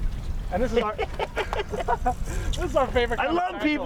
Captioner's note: laughing